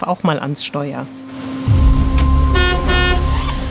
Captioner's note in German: Hupen